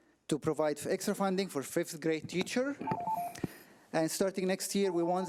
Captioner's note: timer trills